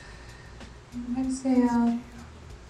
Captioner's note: breathes deeply